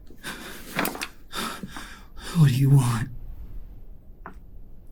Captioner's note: Pete panting